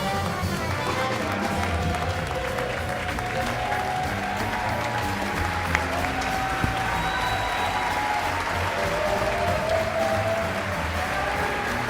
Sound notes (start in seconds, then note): 0.3 audience clapping; 1.8 audience cheering; 6.0 upbeat lively music continues